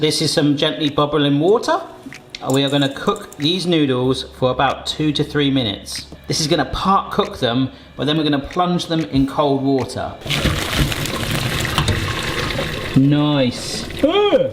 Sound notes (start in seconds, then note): 9.7 water burbling